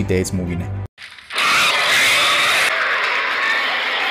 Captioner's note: scream